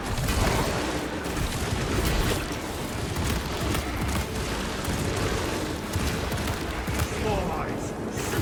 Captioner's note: gunfire